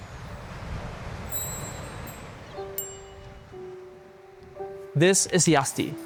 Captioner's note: graphic chimes; waves crashing